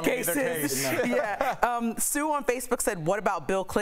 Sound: laughter

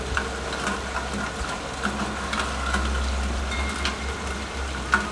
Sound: rain falling softly

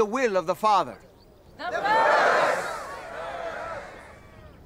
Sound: crowd

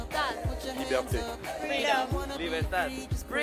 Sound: speaking language other than English

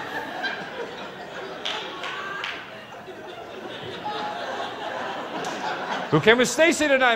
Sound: laughters

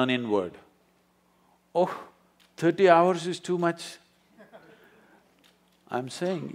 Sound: few laugh

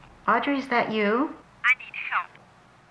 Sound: on phone

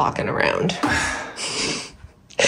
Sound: groan

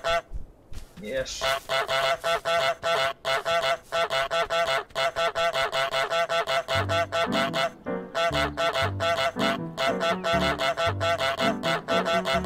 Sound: honk

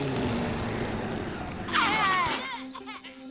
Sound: coughing

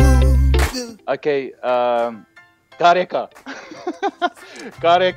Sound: laughs

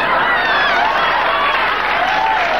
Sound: audience laughing

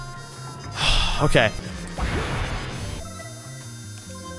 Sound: sighs

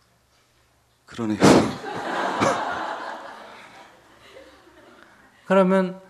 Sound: audience laughter

